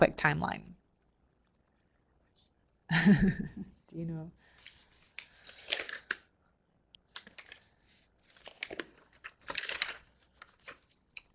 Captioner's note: no sound - waiting for more questions